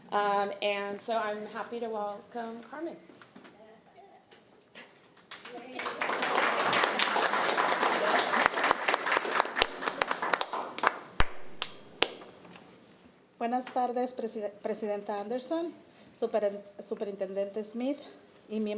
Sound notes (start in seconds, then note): 5.2 applause